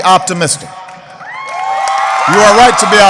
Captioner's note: applause